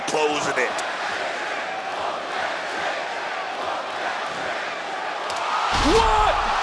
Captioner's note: crowd chants "Whoop that Trick"